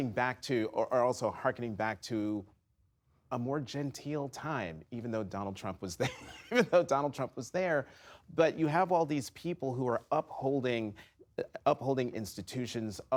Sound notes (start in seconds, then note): 6.0 laughter